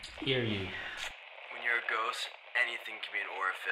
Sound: Henry over radio

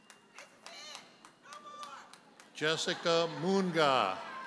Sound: applauds; audience chuckles

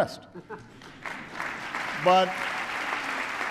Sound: applause

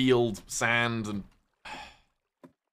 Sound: sighs

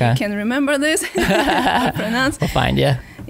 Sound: laughing

